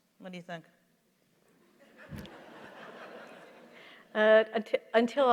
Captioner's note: laughter